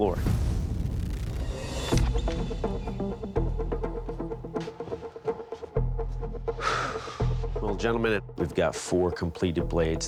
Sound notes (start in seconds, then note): 6.6 exhales deeply